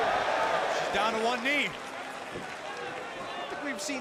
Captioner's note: crowd cheering